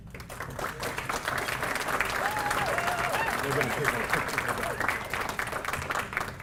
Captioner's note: applause